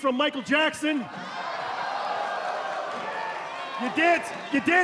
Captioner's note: crowd cheering